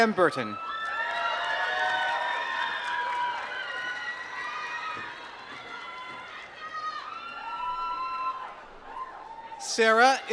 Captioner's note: applause